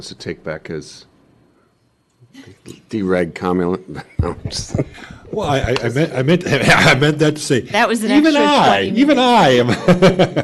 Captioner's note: laughter